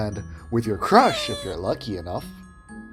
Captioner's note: fluttershy sqeak effect